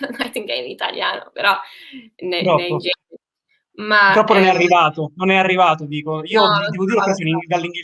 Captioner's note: laughs